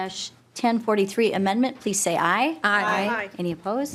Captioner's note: chorus of ayes